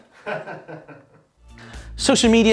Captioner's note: camera Man laughs